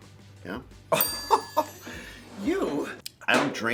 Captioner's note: bell dinging